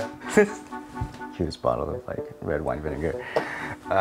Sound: chuckles

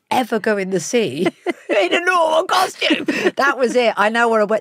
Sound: Giovanna laughs

